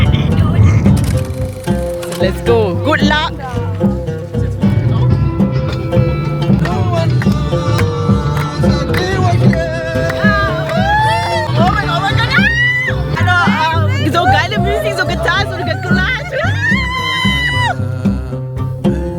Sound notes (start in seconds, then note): 6.8 singing; 12.5 scream; 13.2 laugh; 13.2 speaking German